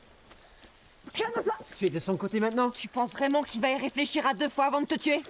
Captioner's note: Anatole and Ellie speak in French